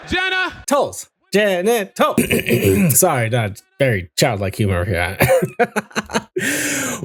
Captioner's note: clears throat